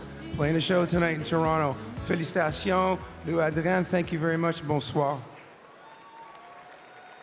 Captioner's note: speaking french